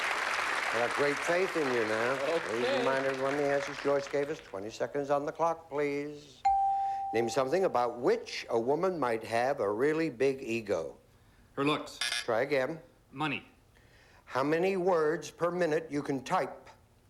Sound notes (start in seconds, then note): 10.8 buzz buzz